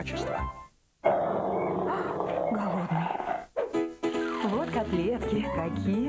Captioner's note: growl